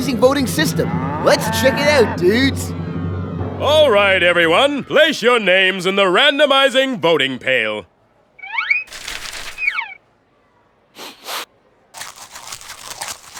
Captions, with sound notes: LET'S CHECK IT OUT, DUDES. ALL RIGHT, EVERYONE, PLACE YOUR NAMES IN THE RANDOMIZING VOTING PAIL. (SNIFFS AND CHEWS)